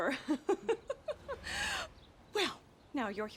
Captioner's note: laughs